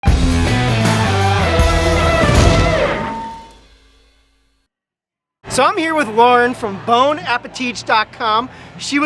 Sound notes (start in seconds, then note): 0.0 guitar rock music; 2.2 logo splats